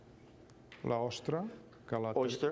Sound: speaking catalan

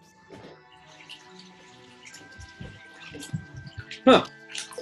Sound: running water

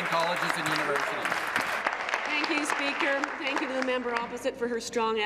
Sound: applause

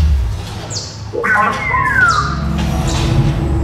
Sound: droid speaking

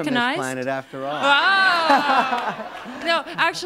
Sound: laughter

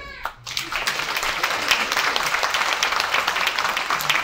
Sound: audience applauds

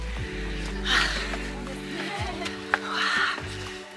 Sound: gasping

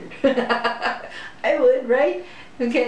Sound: laughter

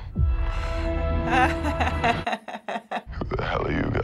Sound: laughing

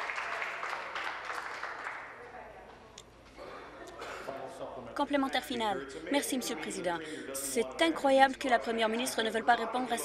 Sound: applause

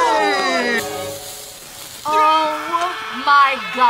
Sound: Homer screams; pepper sizzles

